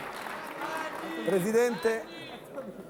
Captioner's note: Applauso